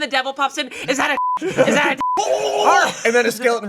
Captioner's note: beep